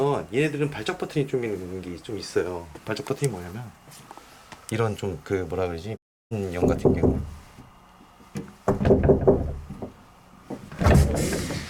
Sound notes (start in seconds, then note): 8.4 knocking